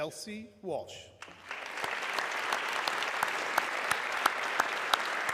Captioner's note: audience clapping